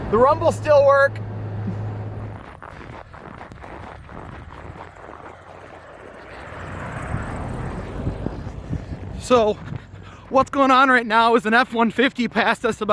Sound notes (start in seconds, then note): 2.4 snow crunching